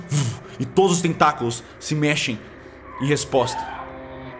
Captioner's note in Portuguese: grito no fundo